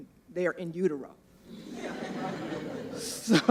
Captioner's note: laughter